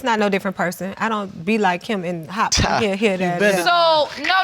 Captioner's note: scoffs